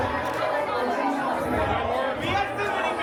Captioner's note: crowd chattering